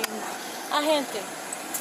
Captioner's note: speaking in Spanish